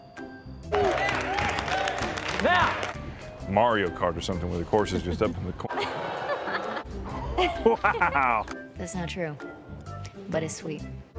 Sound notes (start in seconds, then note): 7.1 laughing; 7.2 giggling